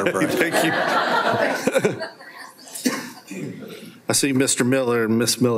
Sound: everyone laughs

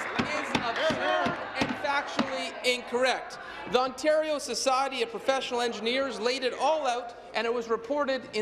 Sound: applause

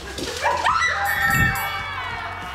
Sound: screams; bell chimes

